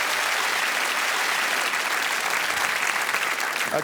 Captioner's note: cheers and applause